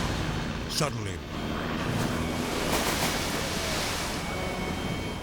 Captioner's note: water splashes